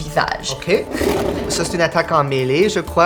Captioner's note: monstrous roar